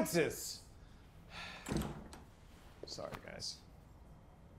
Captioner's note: sighs